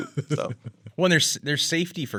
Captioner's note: laughs